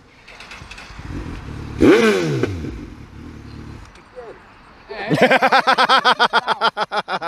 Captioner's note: loud rev; laughter